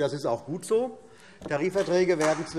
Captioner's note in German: Beifall CDU und BÜNDNIS 90/DIE GRÜNEN